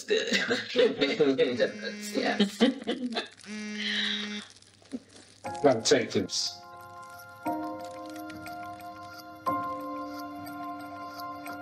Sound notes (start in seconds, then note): 0.1 they laugh; 1.6 phone vibrating